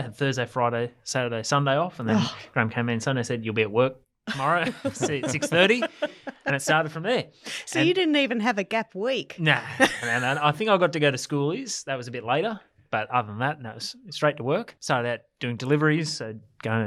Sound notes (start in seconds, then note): 4.3 laughs; 9.6 laughs